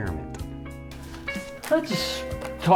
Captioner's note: cards shuffling